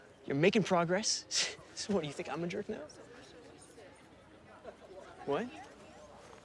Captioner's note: scoffs